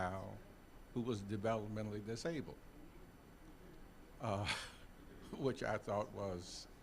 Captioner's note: chuckling